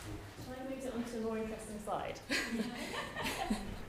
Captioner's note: laughs